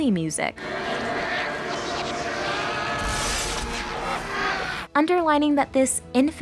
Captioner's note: screaming